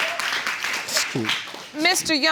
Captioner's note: chuckles